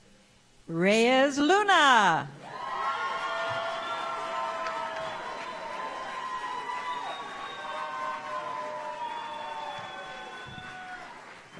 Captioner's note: applause